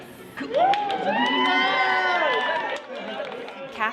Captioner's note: cheering